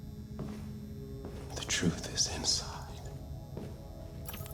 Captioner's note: quietly